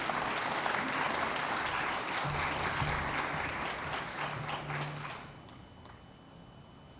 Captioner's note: applause